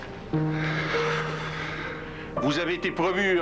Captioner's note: Soupir